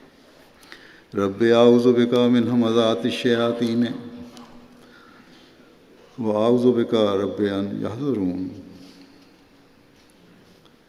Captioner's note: Arabic